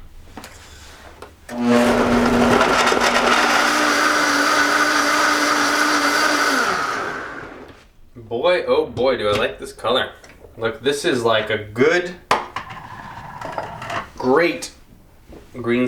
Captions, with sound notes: (whirring) Boy oh boy, do I like this color. This is like a good, great green smoothie.